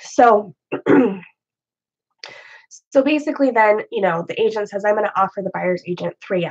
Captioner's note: clears throat